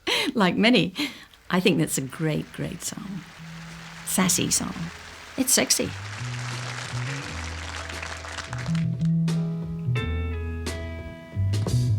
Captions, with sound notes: Like many, I think that's a great, great song. Sassy song. It's sexy. (crowd applause)